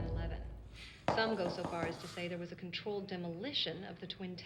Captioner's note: knocking at door